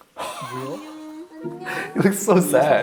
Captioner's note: gasping and laughing